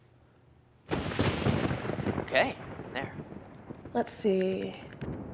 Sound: thunder

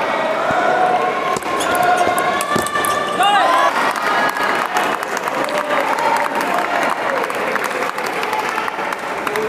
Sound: applause

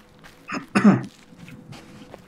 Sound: coughs

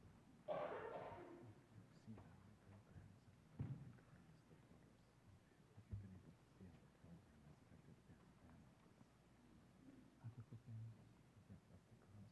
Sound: whispering

